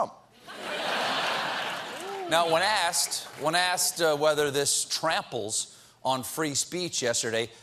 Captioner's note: laughter